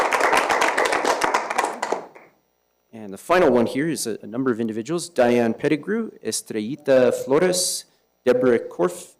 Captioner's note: applause